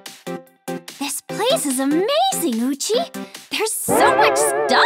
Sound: bwoong

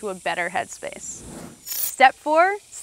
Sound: screen whooshing

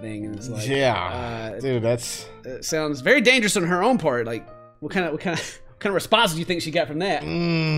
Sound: laugh

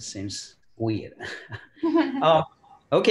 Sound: laughs

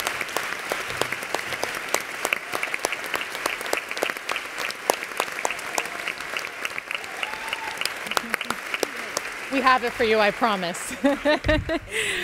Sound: applause and cheers

